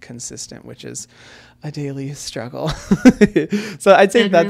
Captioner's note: laughs